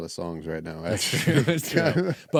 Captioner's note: laughing